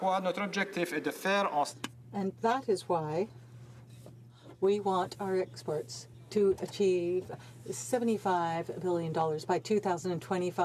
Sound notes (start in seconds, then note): 3.0 speaking French